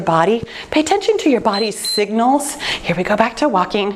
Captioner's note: timer beeps